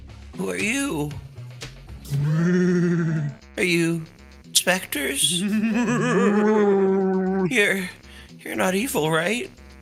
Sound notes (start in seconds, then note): 5.2 laughs